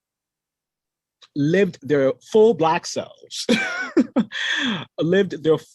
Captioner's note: laughs